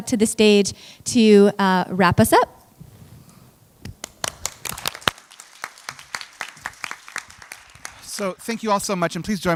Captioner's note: applause